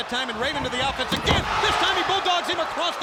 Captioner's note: footsteps plodding; body thudding